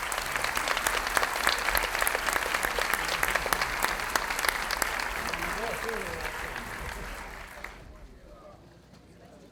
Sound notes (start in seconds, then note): 0.0 audience applauding; 5.7 audience chattering